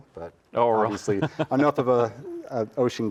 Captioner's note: chuckles